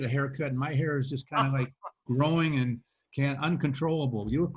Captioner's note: laughs